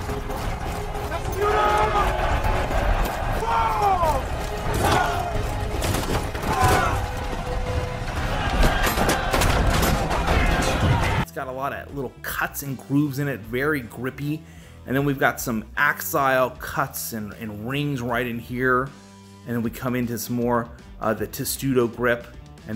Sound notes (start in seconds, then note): 0.0 soldiers shouting; 0.0 metal clanging; 8.3 shields banging